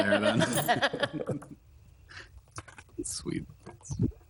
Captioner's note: people chuckling